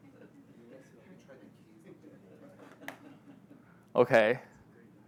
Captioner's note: audience laughing